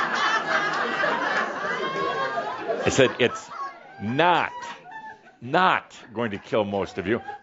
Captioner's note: laughter